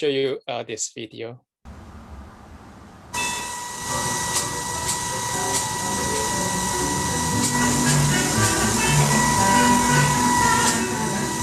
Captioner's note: electronic noises